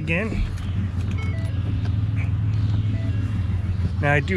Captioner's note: car beeps